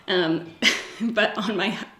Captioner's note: giggles